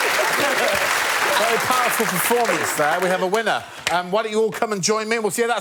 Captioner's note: laughter